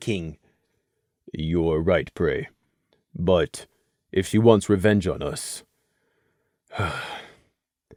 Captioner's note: sigh